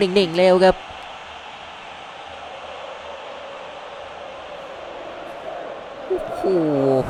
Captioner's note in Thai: ปรบมือ